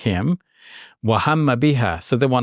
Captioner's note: speaks Arabic